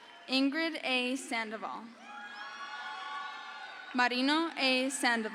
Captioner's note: crowd cheers